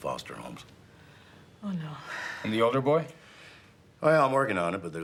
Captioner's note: sighs